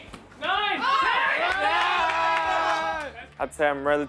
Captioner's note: group yells